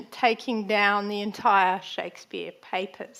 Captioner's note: none